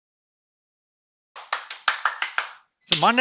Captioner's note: clapping